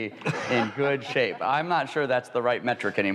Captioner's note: laughs